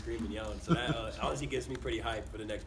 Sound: laugh

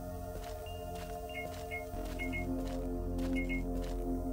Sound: faulty light noise

